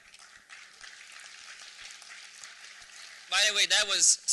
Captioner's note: applause